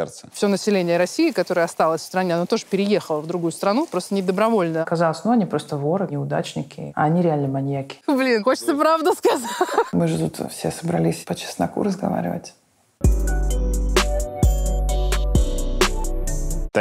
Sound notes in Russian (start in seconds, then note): 9.3 смеется; 13.0 музыкальная заставка